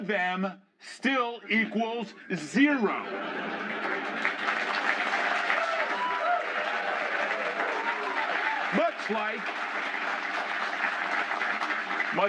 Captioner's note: laughter